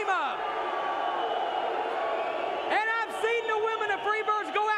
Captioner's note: crowd cheering